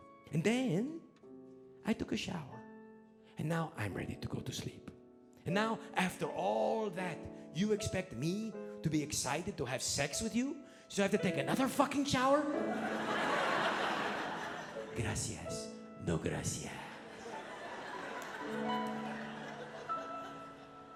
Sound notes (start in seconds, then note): 12.6 audience laughing; 15.1 speaking in foreign language